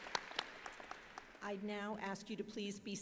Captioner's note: applause